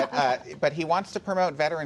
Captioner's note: laughter